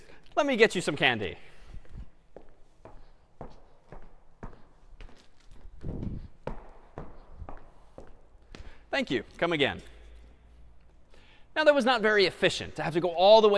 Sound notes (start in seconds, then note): 2.0 footsteps